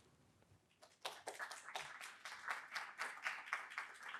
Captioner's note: applauds